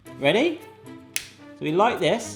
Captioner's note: clicks